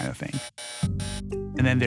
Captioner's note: error noise